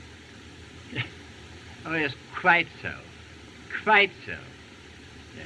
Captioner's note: chuckles